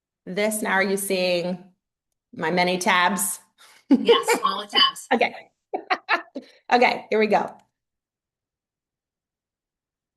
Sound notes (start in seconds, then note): 4.0 laughs